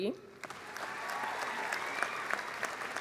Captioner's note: applause